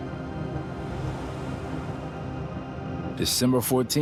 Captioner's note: car whooshes past